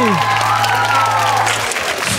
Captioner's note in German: Applaus